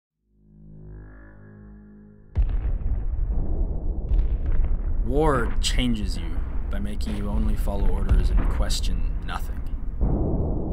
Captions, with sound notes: (haunting music) - [Voiceover] War changes you by making you only follow orders and question nothing.